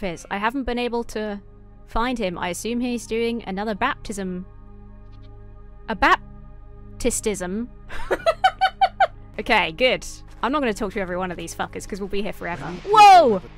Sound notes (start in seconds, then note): 7.9 laughs